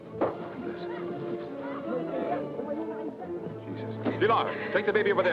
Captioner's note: man prays quietly